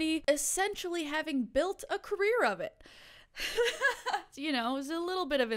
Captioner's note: laughs